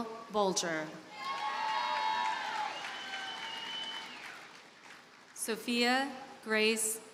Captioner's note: audience cheers and applauds